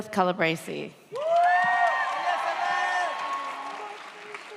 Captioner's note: audience cheers